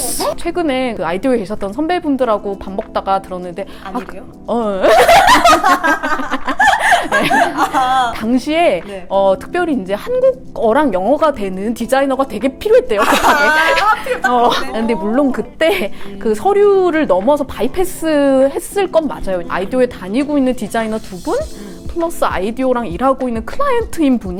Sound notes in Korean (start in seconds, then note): 4.8 웃음